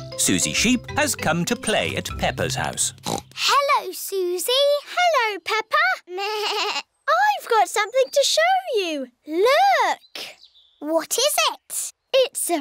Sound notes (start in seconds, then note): 3.0 snorts; 6.3 bleats